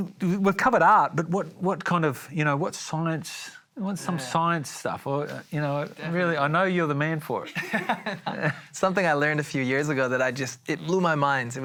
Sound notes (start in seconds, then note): 7.4 laughter